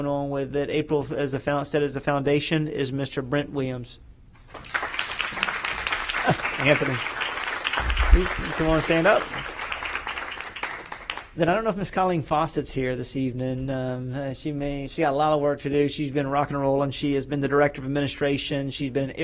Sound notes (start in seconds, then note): 9.9 applause